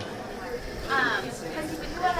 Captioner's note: all chattering